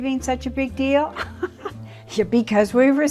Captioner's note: laughs